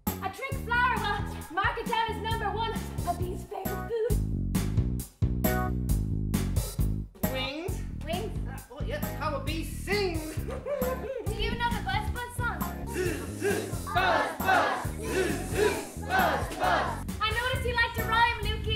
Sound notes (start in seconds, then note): 12.8 audience joining in